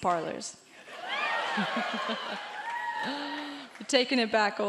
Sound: crowd cheering; laughing

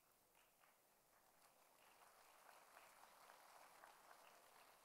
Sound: audience applauds

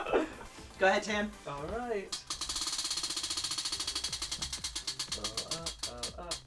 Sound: laughs; roulette spinning

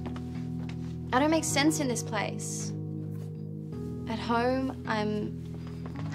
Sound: none

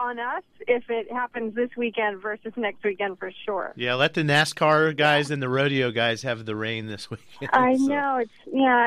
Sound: laughs

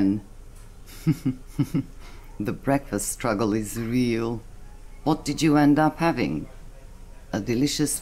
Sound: chuckles

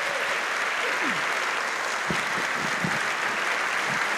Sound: applause

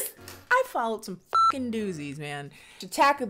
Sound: beep

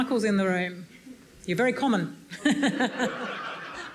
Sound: audience laughs; laughs

